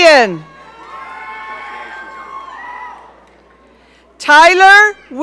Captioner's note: audience cheering